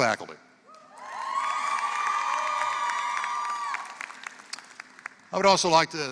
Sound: applause

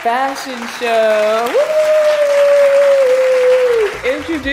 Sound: applause

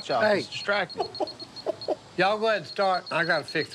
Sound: chuckles

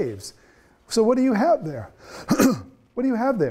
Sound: coughs

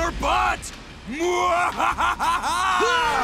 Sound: laughing; grunting

